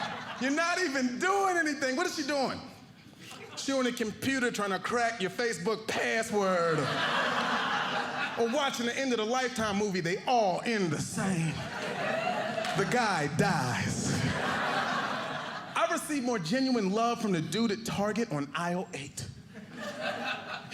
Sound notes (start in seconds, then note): 6.4 audience laughing; 13.7 audience laughing